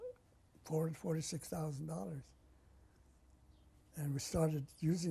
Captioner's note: pauses for 3 seconds